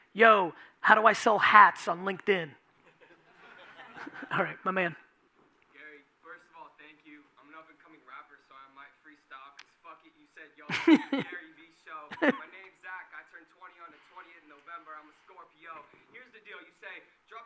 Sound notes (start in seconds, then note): 3.0 audience laughing